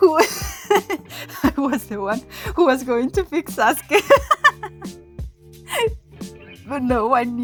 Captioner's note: dies laughing